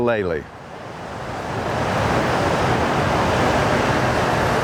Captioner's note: waves crashing